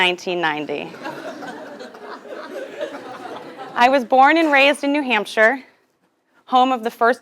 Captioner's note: laugh